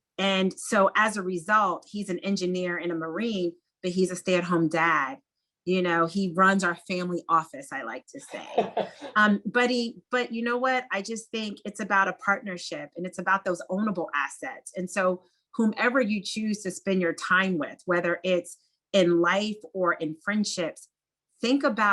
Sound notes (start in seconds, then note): 8.3 laugh